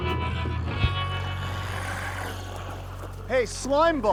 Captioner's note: glowzies growling